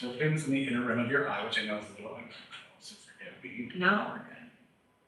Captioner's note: faintly speaks